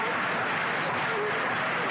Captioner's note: chanting